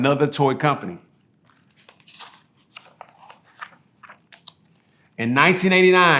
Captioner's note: pages rustling